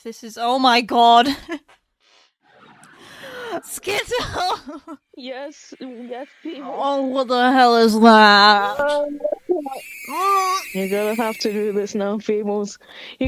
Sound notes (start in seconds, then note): 3.0 deep inhale; 10.1 scared